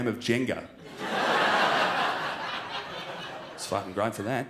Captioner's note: crowd laughs